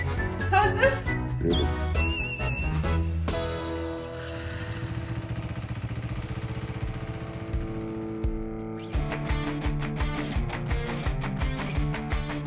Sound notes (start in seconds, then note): 3.8 music concludes; 5.3 motorcycle chugging; 9.2 upbeat rock music